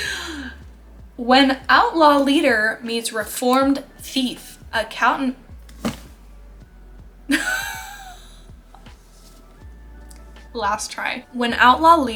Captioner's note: laughs